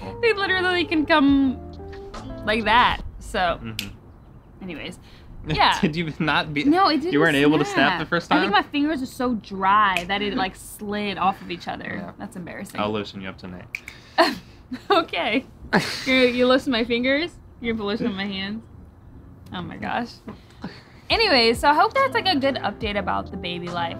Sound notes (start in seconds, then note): 3.7 fingers snap; 5.7 laughs; 10.0 fingers snap; 13.7 fingers snap; 14.6 laughs